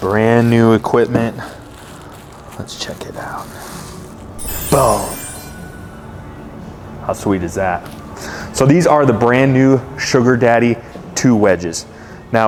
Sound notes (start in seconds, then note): 4.3 chimes tingling